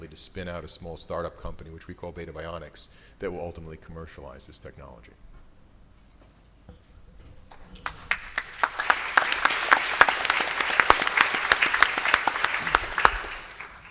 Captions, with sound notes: to spin out a small startup company, which we call Beta Bionics, that will ultimately commercialize this technology. [APPLAUSE]